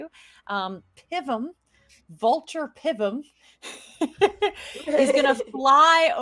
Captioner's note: laughing